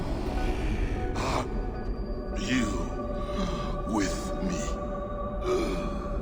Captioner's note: groans